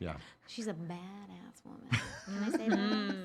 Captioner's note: laughing